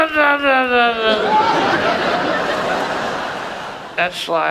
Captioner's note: audience laughs